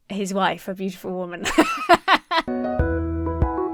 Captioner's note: laughs; uplifting music